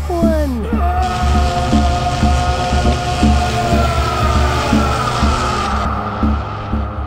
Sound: Leonard groaning; electric zapping

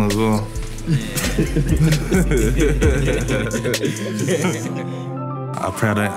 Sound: everyone laughing

